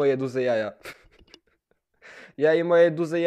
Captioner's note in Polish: on znowu się śmieje